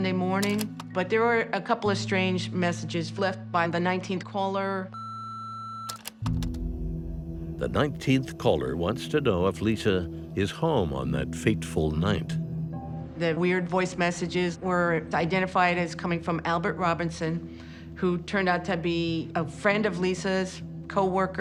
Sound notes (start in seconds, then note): 5.0 beeping